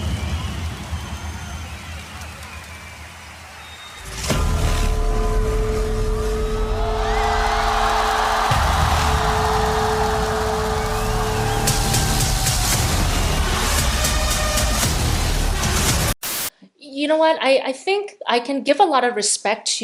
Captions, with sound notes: (audience applause) (audience cheering) (dramatic music) - You know what, I think I can give a lot of respect